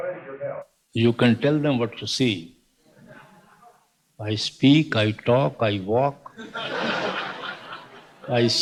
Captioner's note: laughter